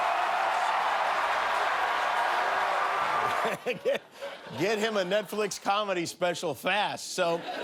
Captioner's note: laughter